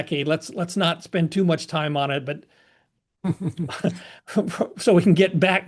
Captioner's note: laugh